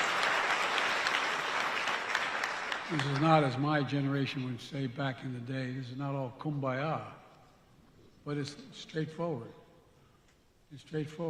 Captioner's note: applause